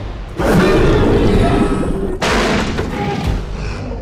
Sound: growling and crash sounds

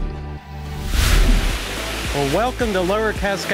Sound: water rushes

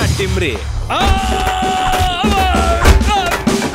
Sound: screaming in pain

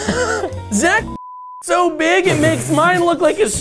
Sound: laughing; beep

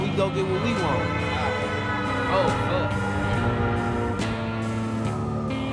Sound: horn blaring

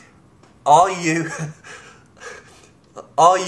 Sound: laughs

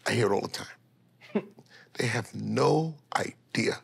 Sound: chuckles

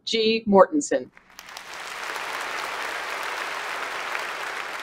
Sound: applause

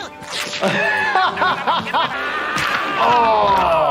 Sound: laughing

